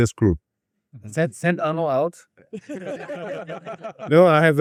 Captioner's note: laughs